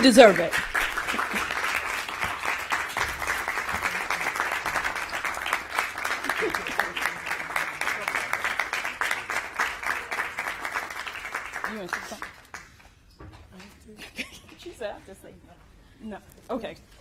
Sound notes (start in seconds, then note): 2.2 applause; 7.2 applause